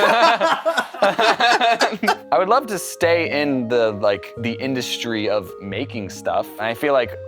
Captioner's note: laughter